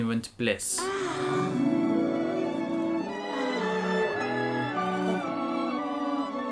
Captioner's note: sigh of delight